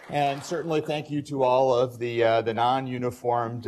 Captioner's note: applause